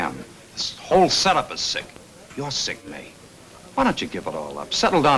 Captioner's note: none